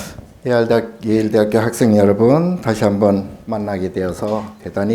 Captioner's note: speaking Korean